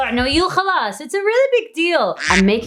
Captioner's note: speaks in foreign language; duck quacking